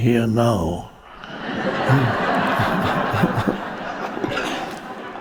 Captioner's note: audience laughs